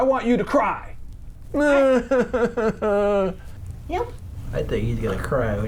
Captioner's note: starts pretend crying